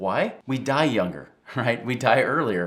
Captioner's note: chuckles